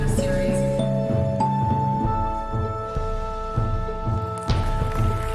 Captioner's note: audience applauding